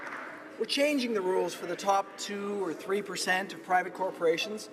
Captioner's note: applause